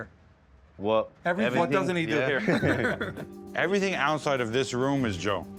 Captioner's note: all laughing